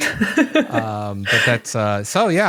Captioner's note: giggles